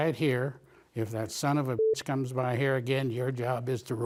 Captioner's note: beep